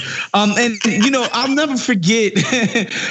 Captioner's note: laugh